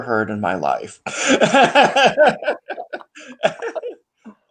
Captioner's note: laughing